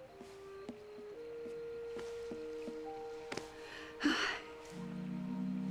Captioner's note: exhales